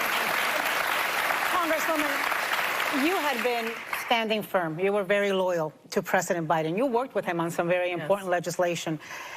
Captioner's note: cheers and applause